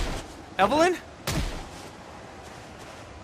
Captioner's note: close gunshot